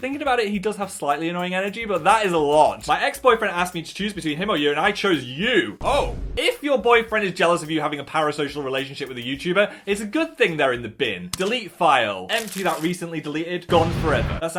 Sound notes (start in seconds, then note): none